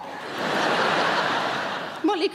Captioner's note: audience laughing